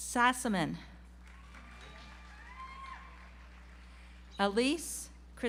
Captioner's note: audience applauds